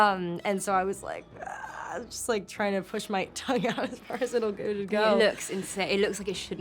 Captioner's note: quiet scream